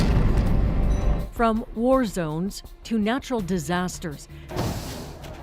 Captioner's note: explosions